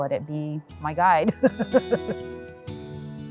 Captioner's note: laughs